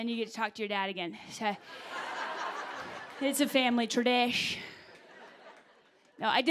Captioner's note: laughter